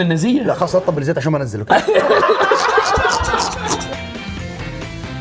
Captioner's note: all laughing